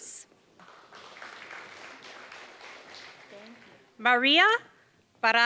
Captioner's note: applause